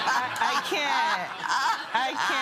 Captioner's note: chuckles